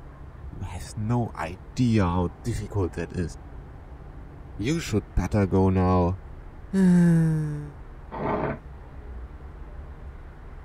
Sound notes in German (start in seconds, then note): 6.7 Seufzer; 8.1 Stuhl Verschieben